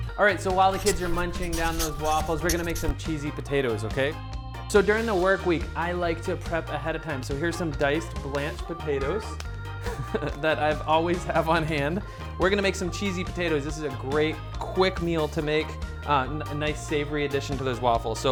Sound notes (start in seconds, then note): 9.9 laughs